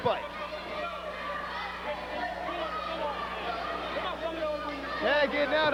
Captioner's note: crowd cheering